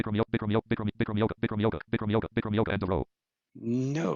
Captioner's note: rapid screen reader audio output